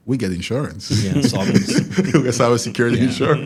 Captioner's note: laugh